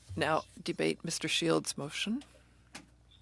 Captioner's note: speaking in French